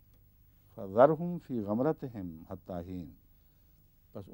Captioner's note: Arabic